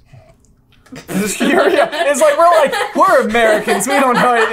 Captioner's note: laughter